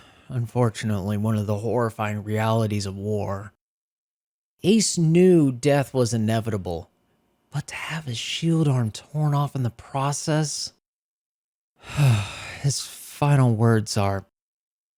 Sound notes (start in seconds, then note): 11.8 sigh